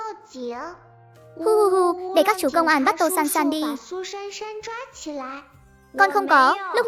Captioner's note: sob sob sob